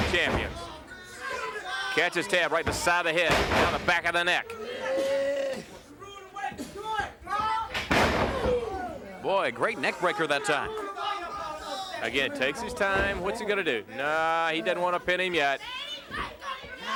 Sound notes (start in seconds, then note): 0.1 blows thudding; 4.4 blows thudding; 5.2 body thudding; 5.2 wrestler grunting